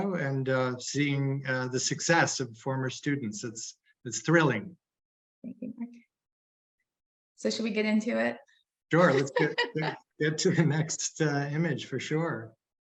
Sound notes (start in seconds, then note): 9.0 laughing